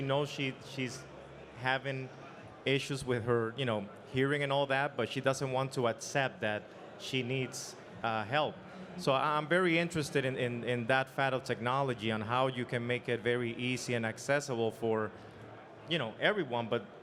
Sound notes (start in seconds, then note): none